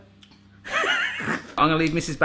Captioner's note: laughing